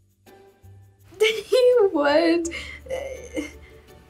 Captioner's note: laughs